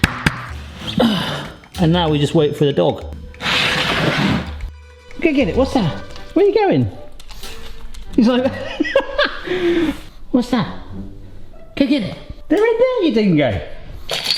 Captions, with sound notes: And now we just wait for the dog. (wooden block scrapes on floor) Go get it. What's that? Where are you going? He's like... (laughs) What's that? Go get it. They're right there, you dingo.